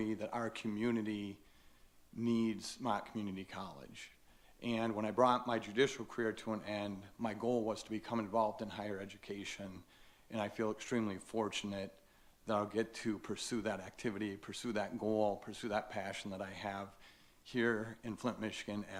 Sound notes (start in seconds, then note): none